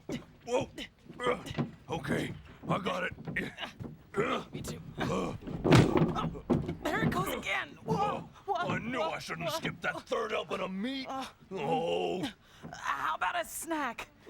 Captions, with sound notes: WHOA! OKAY, I GOT IT. ME, TOO. ( closet thumps ) OH, THERE IT GOES AGAIN. OH, I KNEW I SHOULDN'T HAVE SKIPPED THAT THIRD HELPING OF MEAT. OH! HOW ABOUT A SNACK?